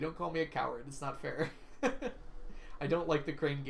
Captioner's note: laughs